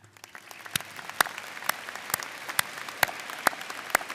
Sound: audience applauding

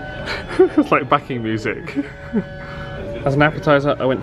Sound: gentle orchestral music continues; chuckles

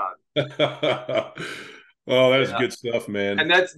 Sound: laughing

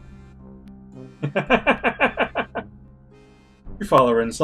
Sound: laughs

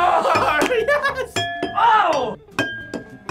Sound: laughs; glasses chiming

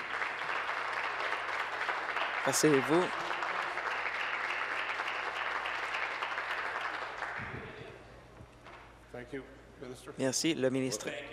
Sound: applause

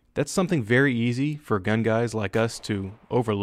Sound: gunfire

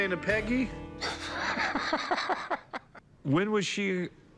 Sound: laughter

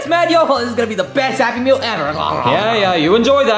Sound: munching

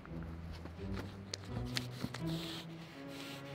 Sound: sniffs

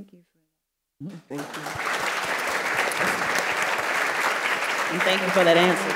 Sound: audience applauds

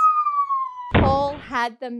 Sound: descending whistle; thump

